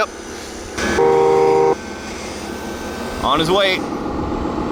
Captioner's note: truck honking